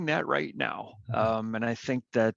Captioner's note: laughs